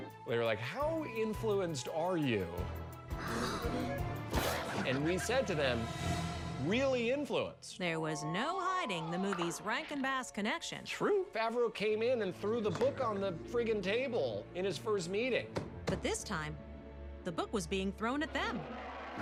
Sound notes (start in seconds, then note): 3.1 gasps